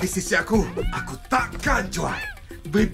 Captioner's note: meowing